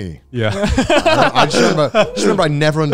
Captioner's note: laughing